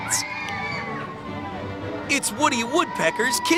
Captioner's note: kids screaming; upbeat music